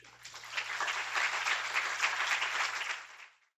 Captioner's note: applause